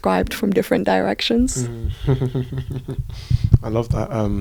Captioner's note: laughter